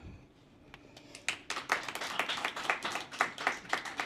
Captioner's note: applause